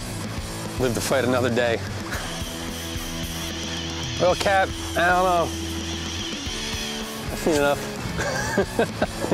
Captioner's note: laughs